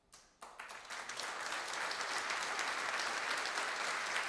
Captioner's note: applause